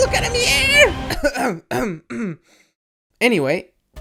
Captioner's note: coughs nonchalantly